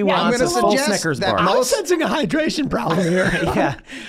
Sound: laughing

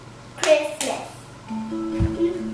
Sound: clapping

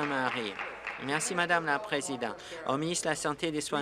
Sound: applause

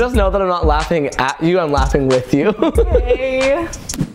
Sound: laughs

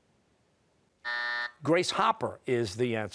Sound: buzzer

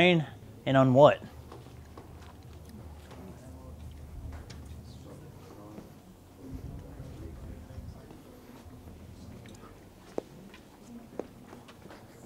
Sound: audience discussing

